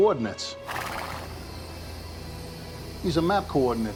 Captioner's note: horse neighing